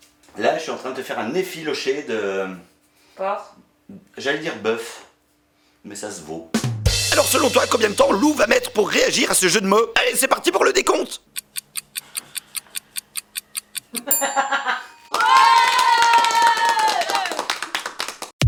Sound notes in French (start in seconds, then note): 14.0 rires; 15.1 applaudissements